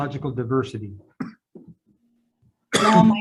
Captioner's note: man coughs; speaks in foreign language